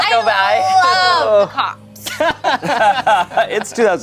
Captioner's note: group laughs